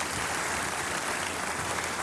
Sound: applause

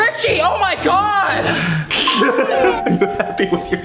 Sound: laughing

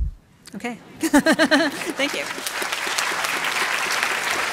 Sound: applause

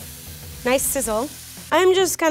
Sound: meat sizzles

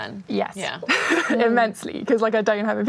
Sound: laughs

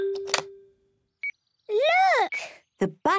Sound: clicks; meter beeping

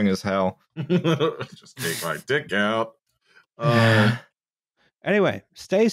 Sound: laughs

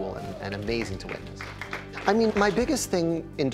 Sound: crowd applauding

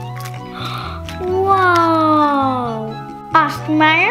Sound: gasps

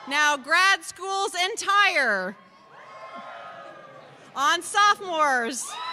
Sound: cheers

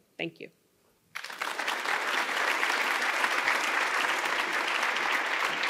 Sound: audience applauding

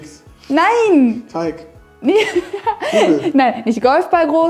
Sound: laughing

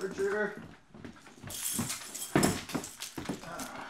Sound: keys jingle, footsteps

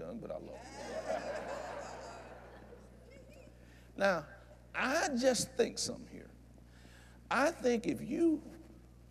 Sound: laughter

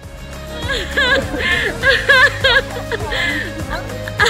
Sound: patrons laugh

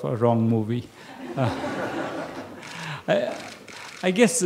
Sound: laughter

